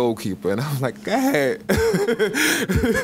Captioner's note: laughs